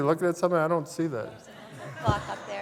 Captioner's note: laughter